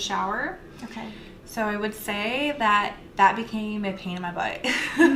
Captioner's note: laughter